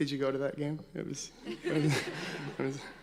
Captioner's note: audience laughing